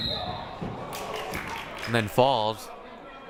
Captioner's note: whistle blaring; crowd applauding